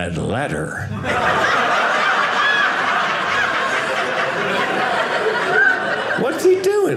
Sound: audience laughing

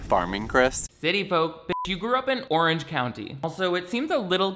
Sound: beep

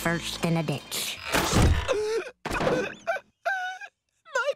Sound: whimpering

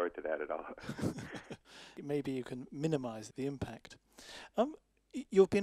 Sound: both laugh

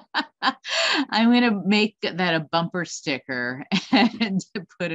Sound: laughs

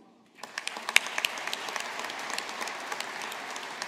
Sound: audience applauding

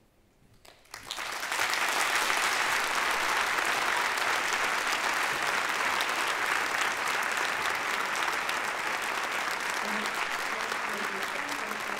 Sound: audience applause

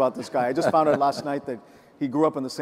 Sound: laughs

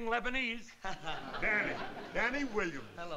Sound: chuckles

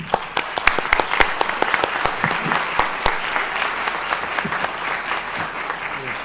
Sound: applause

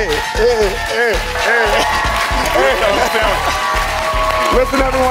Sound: audience cheers

